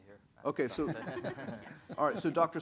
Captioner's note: panelist laughing